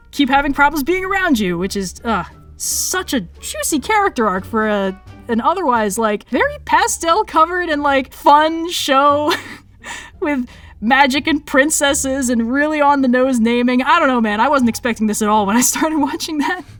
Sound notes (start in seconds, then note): 9.2 laughs